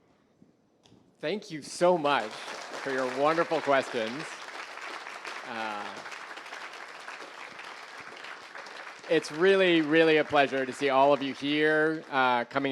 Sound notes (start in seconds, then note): 4.1 applause